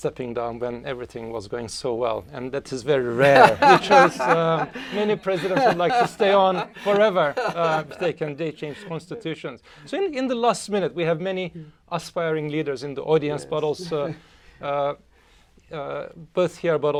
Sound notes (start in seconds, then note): 3.1 laughter